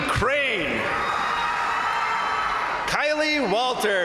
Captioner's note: crowd cheering; crowd applauding